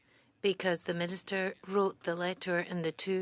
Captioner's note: speaking French